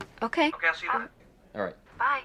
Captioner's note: on phone